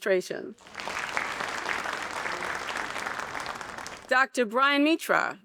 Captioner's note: audience applauding